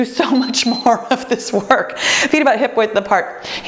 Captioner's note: timer beeps